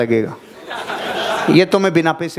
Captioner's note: laughing